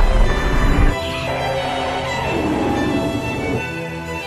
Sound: Rodan 2019 roars; Fire Rodan roars

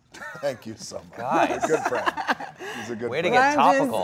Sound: Gal laughs

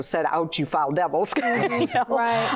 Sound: laughter

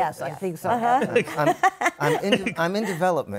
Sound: laughs

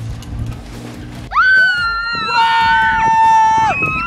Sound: cheering

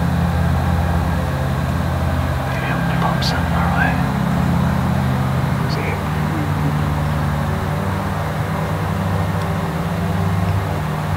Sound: mowing noise

